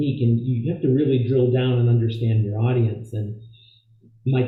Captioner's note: voice Low